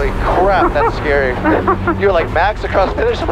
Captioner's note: laughs